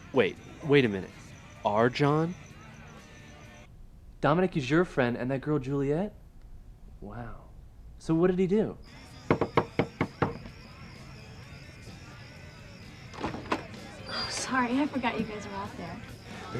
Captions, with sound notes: - Wait, wait a minute. Our John? - Dominic is your friend, and that girl Juliet? Wow. So what did he do? [KNOCKING AT THE DOOR] [DOOR OPENS] - Oh, sorry, I forgot you guys were out there.